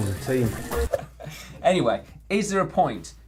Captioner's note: both laugh